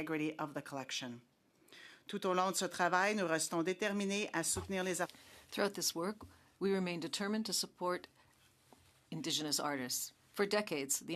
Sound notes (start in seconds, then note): 7.6 speaking French